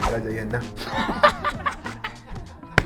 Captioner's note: laughs